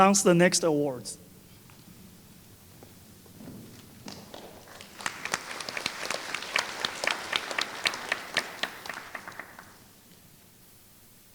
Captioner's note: applause